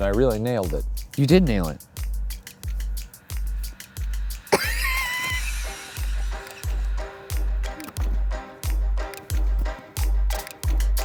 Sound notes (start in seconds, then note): 2.2 upbeat music; 4.5 laughing